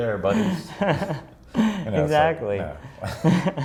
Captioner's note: laughs